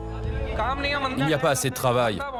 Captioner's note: foreign language spoken